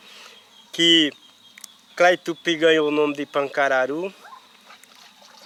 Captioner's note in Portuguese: Canto de pássaros